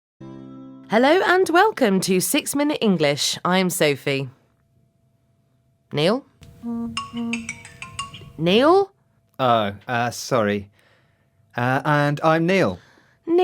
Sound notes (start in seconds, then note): 4.4 pause; 6.5 sound of a smartphone